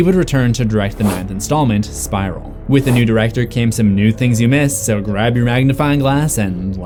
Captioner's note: none